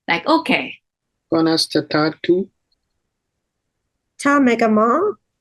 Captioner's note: Speaking Irish